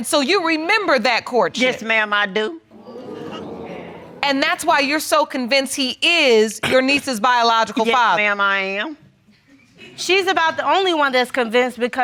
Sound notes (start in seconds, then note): 2.8 audience gasps